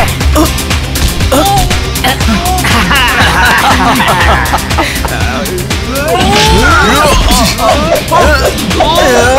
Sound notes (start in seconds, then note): 2.5 laughs